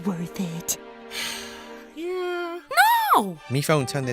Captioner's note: sigh